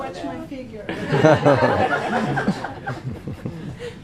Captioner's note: laughing